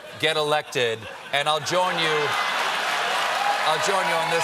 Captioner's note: cheers and applause